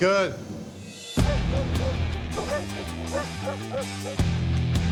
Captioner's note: barking